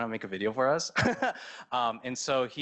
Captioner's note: laughs